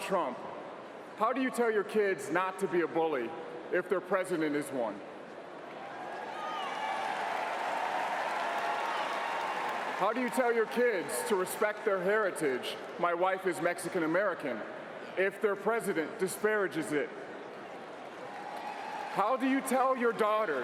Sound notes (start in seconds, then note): 13.7 applause